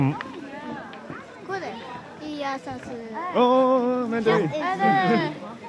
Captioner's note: Mandarin